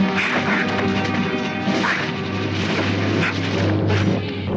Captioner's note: knives whooshing